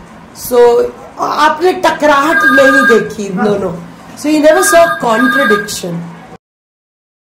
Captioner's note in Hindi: फ़ोन की घंटी बजी